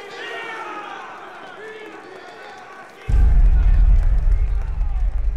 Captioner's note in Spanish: Aplausos